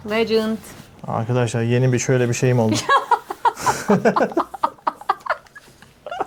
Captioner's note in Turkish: kahkaha